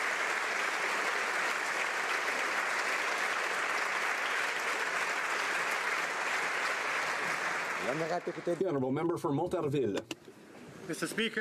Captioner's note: applause